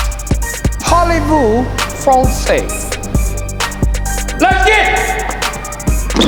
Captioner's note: speaking in foreign language